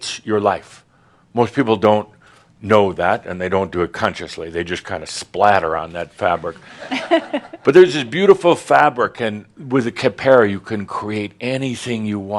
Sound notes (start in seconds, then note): 6.7 a few chuckles